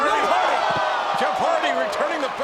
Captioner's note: audience groans